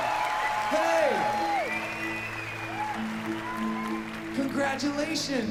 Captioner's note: applause